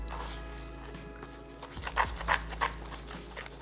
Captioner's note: sound of whisk scrapping against bowl